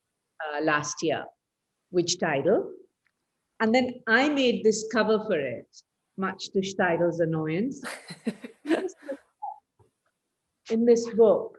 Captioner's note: laughs